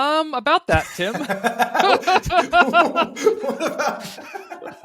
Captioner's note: laughing